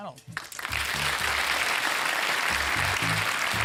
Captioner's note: applause